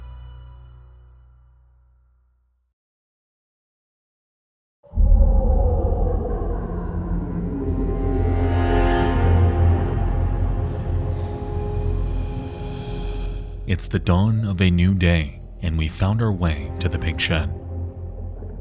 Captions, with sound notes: (creature snarling) (eerie music) It's the dawn of a new day, and we've found our way to the Pig Shed.